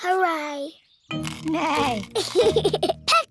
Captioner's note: neighs and giggles